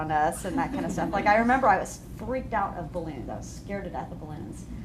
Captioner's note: laughter